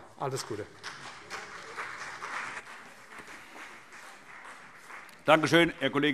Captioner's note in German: Beifall CDU und BÜNDNIS 90/DIE GRÜNEN